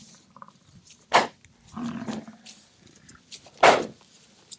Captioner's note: buffalo sharply grunting; buffalo snorting